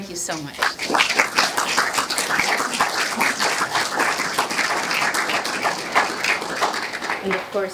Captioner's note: applause